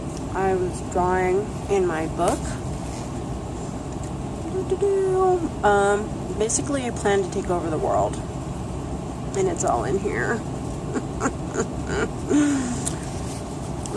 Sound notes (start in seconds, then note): 10.9 maniacal throaty laugh